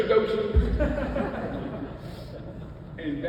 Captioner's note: audience laughs